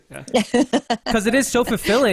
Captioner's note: laughing